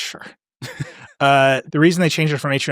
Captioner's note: laughing